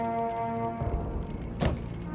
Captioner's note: thud